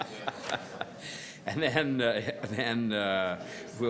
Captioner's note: laughter